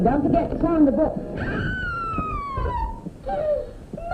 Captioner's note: scream